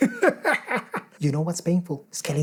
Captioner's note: laughs maniacally